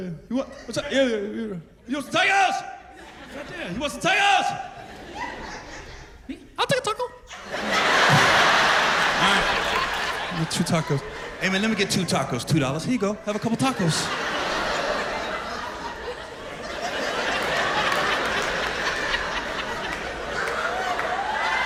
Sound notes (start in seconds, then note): 2.6 shouts; 8.6 laughter; 16.7 laughter